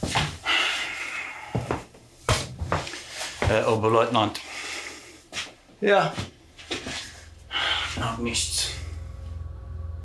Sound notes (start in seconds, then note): 3.5 Koch speaking German; 7.3 ominous music